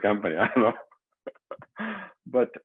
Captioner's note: laughs